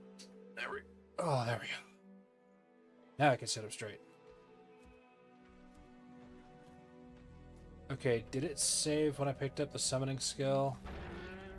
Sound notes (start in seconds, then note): 0.5 Old Internet Cat groans